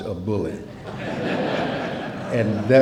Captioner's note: laughter